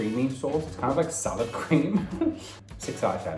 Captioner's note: laughs